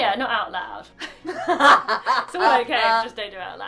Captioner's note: laughing